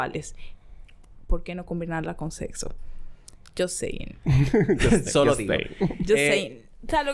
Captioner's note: laughs